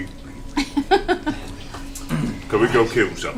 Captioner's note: laughs